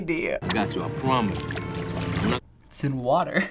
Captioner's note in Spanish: agua cayendo